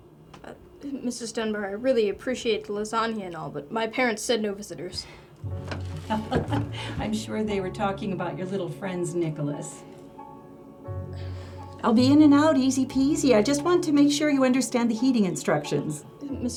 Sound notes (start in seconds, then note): 5.7 suspenseful music; 6.1 chuckles